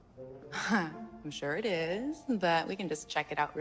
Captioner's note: chuckling